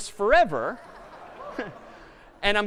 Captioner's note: laughter